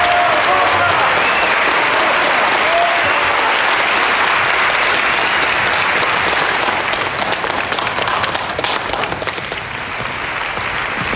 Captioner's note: applause